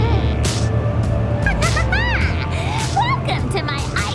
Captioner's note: laughter